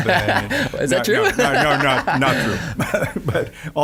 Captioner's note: laughing